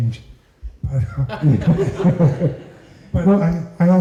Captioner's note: laughter